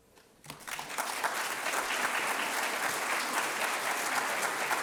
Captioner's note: audience applauding